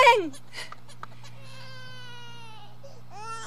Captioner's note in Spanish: Llanto de bebé